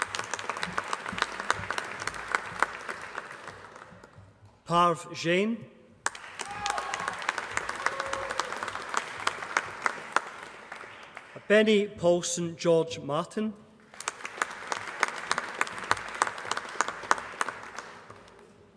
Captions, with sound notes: [APPLAUSE] Parv Jain. [APPLAUSE] Bhenny Paulson George Martin. [APPLAUSE]